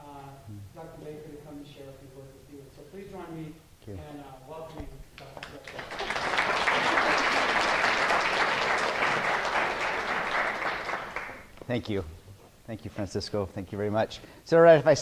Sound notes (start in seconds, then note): 5.2 applause